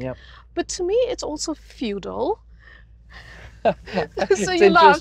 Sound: laughter

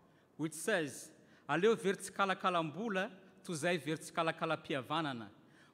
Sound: speaking in foreign language

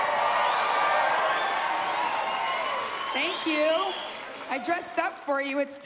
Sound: cheers and applause

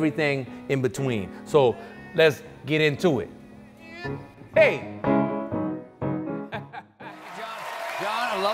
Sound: laughs

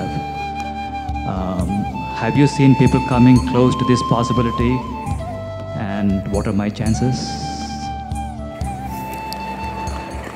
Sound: applause

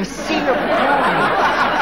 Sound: audience laughing

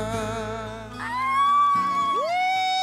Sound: cheering

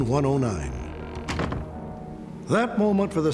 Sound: door closes

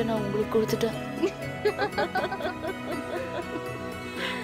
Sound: laughing

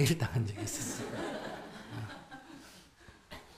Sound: audience laughs

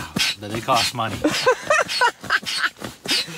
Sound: laughing

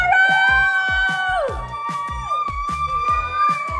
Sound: kids cheering

